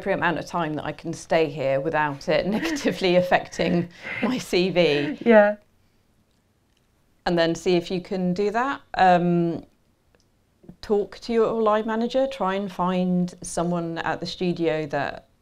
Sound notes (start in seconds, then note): 5.1 laughter